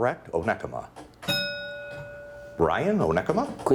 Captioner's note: bell ringing